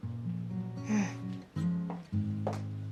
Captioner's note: SlGHS